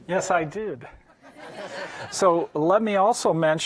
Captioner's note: audience laughing